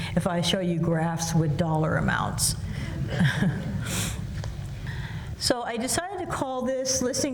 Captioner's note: laughs